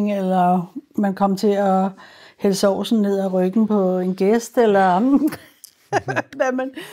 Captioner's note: laughs